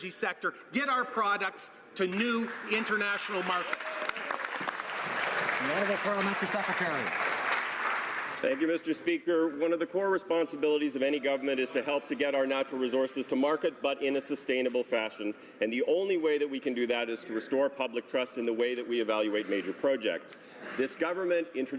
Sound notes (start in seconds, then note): 9.1 applause